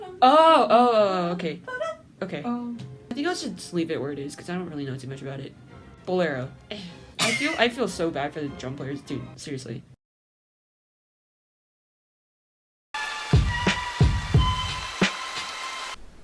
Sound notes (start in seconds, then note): 7.2 coughs on purpose